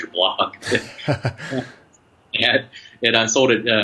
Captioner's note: laughter